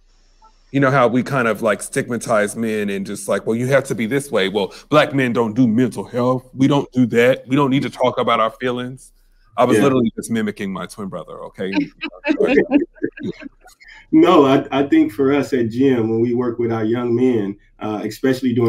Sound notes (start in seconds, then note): 13.8 laughing